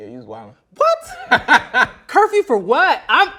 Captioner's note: laughs loudly